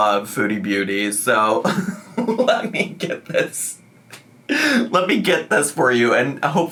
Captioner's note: laughs